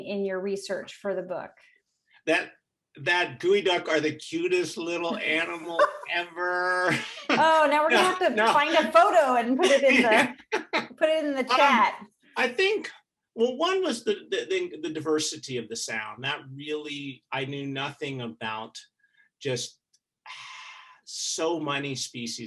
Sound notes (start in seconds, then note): 4.8 both chuckling; 9.5 laughing